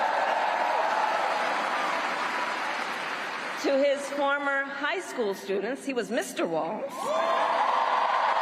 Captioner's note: cheers and applause